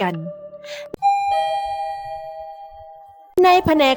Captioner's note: sound of the elevator